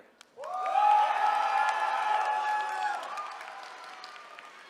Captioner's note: attendees cheering